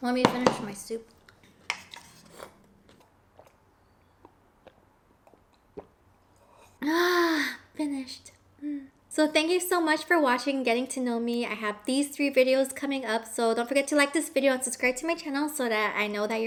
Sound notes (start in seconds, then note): 1.7 slurping; 6.7 sighs